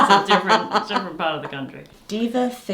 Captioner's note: laughs